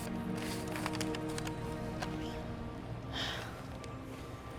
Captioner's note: paper crumpling